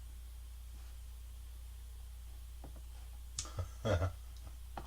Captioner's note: mouse clicking